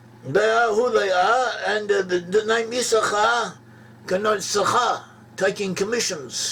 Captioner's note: in Hebrew